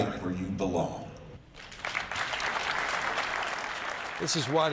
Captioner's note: applause